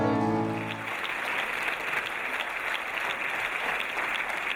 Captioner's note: audience applauding